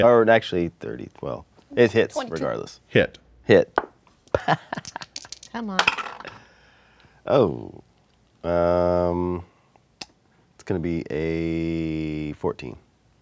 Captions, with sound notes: Or actually 30, well, it hits regardless. - Hit. - Hit. (dice clatter) (laughs) - Come one. - Oh. It's gonna be a 14.